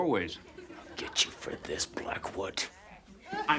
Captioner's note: whispers